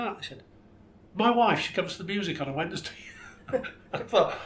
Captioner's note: laughs